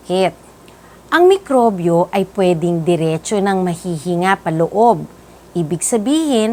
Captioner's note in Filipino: inhaled